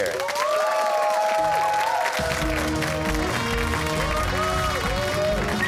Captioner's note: cheers and applause